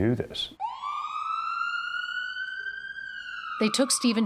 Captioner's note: siren wails